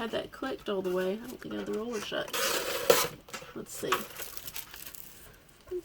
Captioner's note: cutting sound